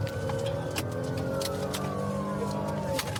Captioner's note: siren blaring